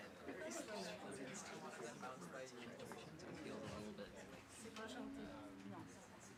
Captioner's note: background chatter